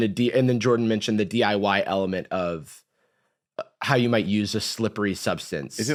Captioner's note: none